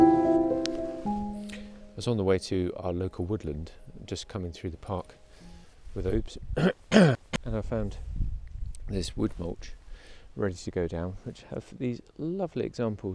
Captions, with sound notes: (soft music) - I was on the way to our local woodland, just coming through the park with Obs. (clears throat) And I found this wood mulch, ready to go down, which has these lovely examples